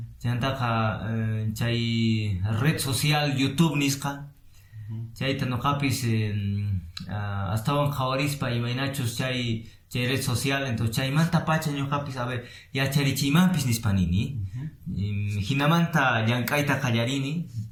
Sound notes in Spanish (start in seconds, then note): 10.7 quechua